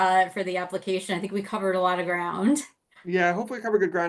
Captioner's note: laughs